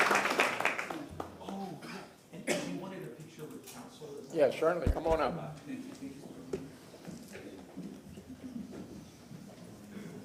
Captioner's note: applause